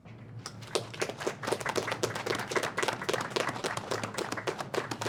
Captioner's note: applause